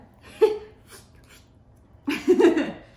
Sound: makes slurping sound

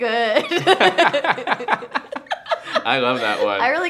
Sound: laughing

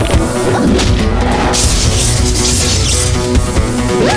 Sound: electrical buzz

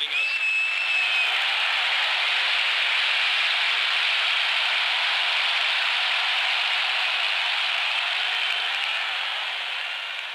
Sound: cheering

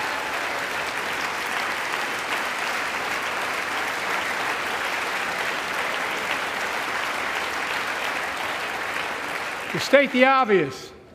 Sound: applause

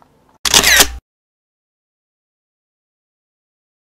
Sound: camera shutters

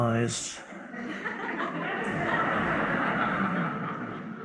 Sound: audience laughs

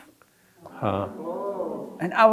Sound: audience mumbling

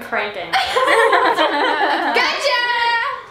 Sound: laughing

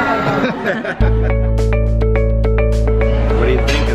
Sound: laughs

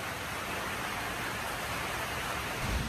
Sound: heavy rain on metal roof continues

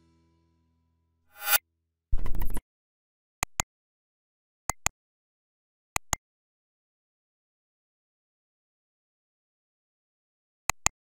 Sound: flick

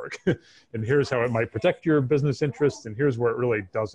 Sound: laughs

